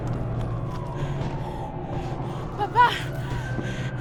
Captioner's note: sirens wailing